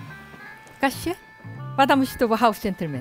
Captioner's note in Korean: none